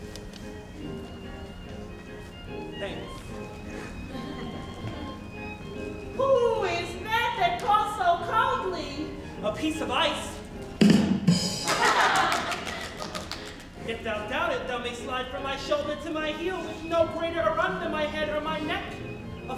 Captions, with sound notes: Thanks. Who is that that calls so coldly? A piece of ice. (comic rimshot music) (group laughs) If thou doubt it, thou mayst slide from my shoulder to my heel with no greater a run than my head and my neck.